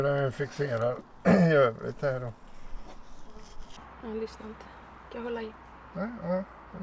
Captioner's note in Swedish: harklar sig